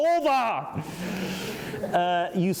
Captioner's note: laughing